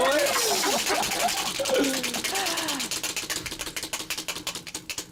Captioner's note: wheel spinning